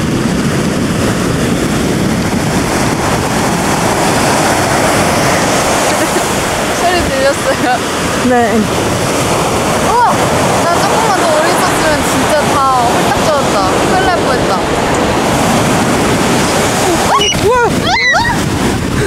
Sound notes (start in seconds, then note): 5.8 hee hee